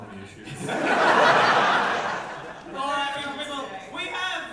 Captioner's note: audience laugher